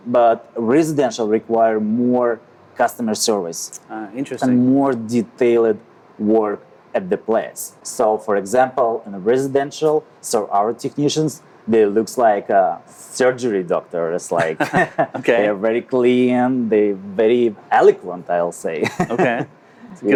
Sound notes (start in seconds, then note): 14.4 group laughs; 18.8 laughing